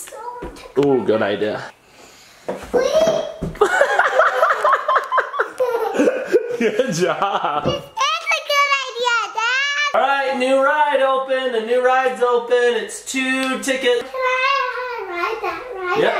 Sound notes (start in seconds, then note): 3.6 laughing; 3.8 thud